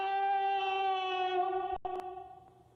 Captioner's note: echoing